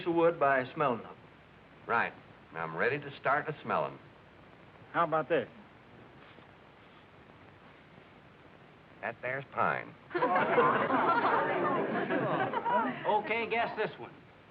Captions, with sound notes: of wood by smelling on it. -Right. I'm ready to start the smelling. -How about this? That there's pine. [excited chatter] -OK. Guess this one.